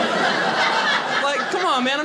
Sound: audience laughing

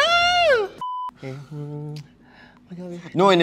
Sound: screams in damsel; hums

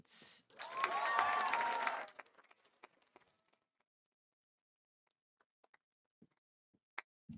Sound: audience cheering; audience applauding

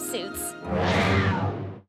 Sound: growling

